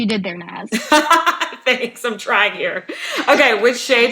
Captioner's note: laughs